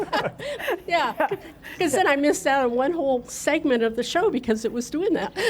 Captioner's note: laughter